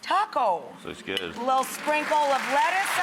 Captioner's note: audience clapping